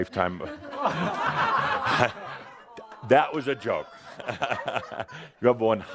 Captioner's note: laughter and groans